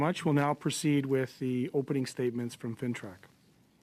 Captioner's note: speaking French